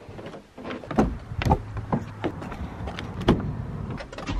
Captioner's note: footsteps